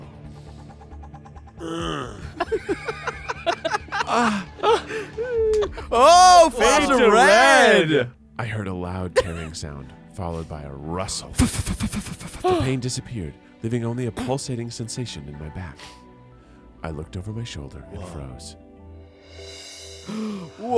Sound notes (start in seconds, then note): 1.6 grunts; 2.1 everyone laughs; 11.4 imitates rustling sound